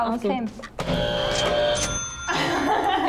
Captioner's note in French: Buzzer; Rires